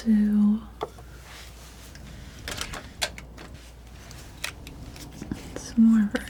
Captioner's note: scratching